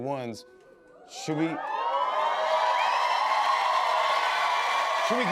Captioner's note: cheers and applause